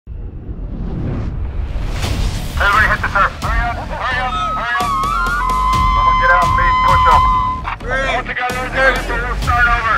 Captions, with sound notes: [Intense Music] Everybody hit the dirt. Hurry up, hurry up, hurry up. [motivated screams] Now get out and do push-ups. All together or we'll start over!